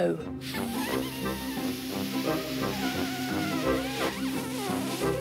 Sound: blowing

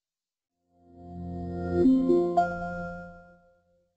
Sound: bell chimes

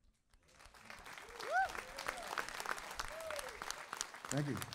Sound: audience cheering

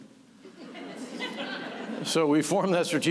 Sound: laughter

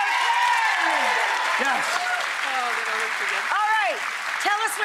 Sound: audience cheers

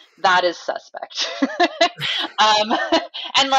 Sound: laughs

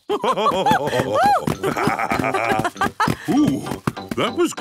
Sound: both laugh

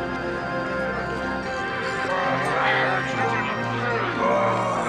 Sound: murmuring

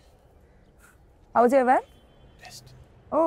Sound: none

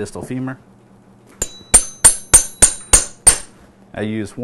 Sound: hammering sound

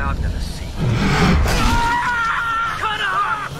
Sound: screams

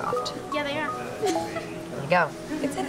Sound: giggles

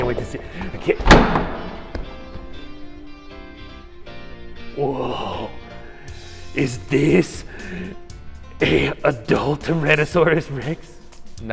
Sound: thud on table

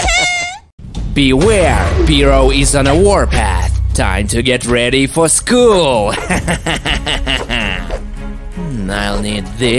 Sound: evil laughter

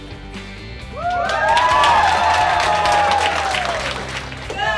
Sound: cheering and applause

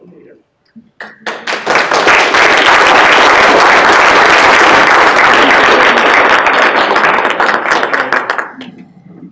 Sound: applause

